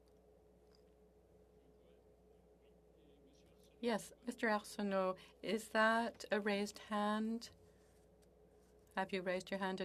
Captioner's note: speaking French